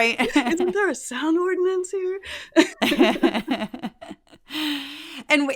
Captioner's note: laugh